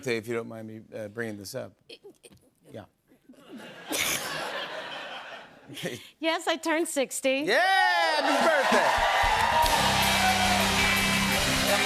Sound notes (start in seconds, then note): 3.4 laughter; 7.8 cheers and applause